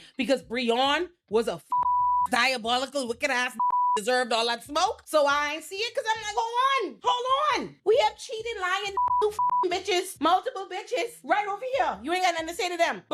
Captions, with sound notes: because Breon was a (beep) diabolical wicked ass (beep) deserved all that smoke? So I ain't see it cause I'm not going on. Hold on, we have cheating lying (beep) you (beep) bitches, multiple bitches right over here. You ain't got nothing to say to them,